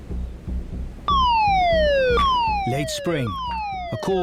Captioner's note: sirens blare